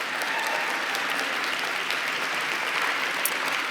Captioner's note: applause